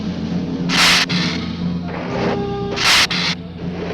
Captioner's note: lizard hissing